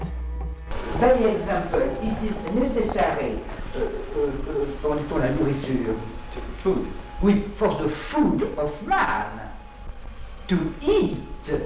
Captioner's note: animals